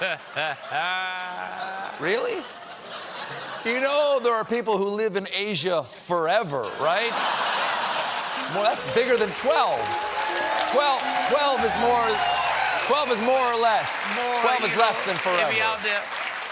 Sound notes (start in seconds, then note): 0.0 laughter; 6.6 laughter